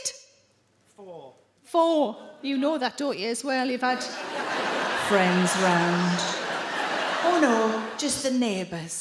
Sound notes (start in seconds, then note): 4.5 in a deep voice